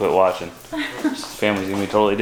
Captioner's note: laughs